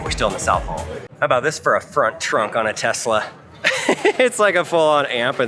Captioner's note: laughs